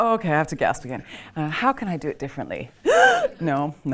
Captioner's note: gasps